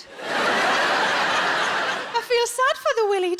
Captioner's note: audience laughing